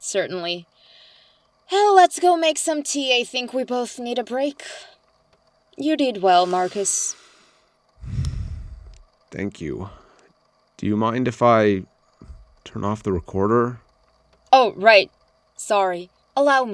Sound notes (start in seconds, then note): 7.9 breathes deeply